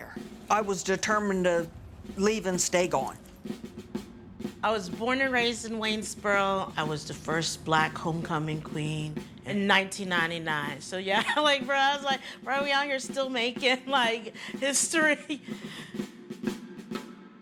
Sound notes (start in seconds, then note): 11.0 laughs; 15.2 energetic drum music